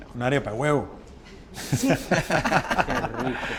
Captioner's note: laughter